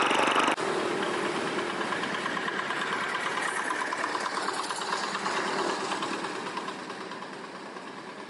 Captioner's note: tractor sound